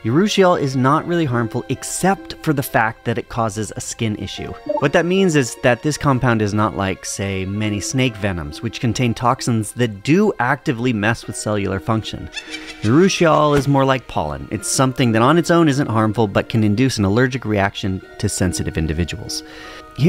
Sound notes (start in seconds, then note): 12.3 witch cackles